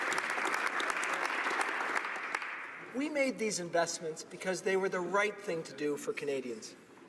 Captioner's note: applause